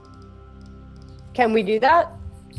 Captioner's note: mouse clicking